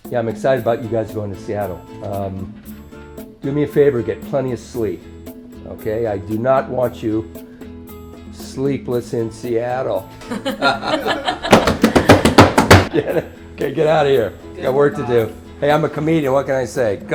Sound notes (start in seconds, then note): 10.2 all laughing; 11.4 hands tapping desk